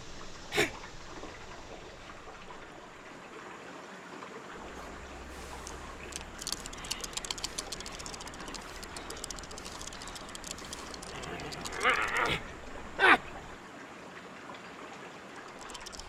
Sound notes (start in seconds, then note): 0.5 Dogmouth coughs; 6.1 dice rattling over babbling water; 11.8 Dogmouth grunts angrily; 15.6 Dogmouth panting over rattling dice